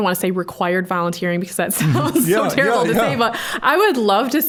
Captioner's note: laughing